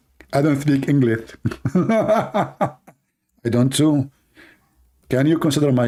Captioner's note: Ketawa